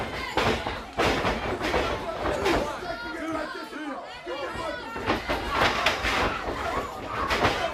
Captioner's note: crowd chatter